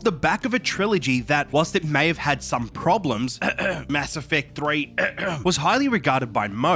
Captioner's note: ahem